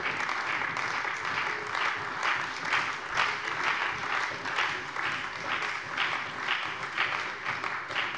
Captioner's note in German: Beifall bei der CDU und der FDP